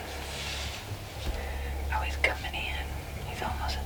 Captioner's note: whispering